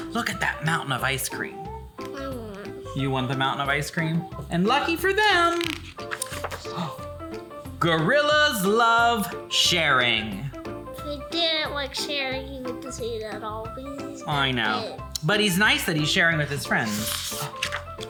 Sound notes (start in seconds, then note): 5.3 page rustling